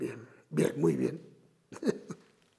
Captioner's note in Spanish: Ríe